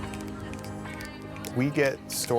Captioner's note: crowd snapping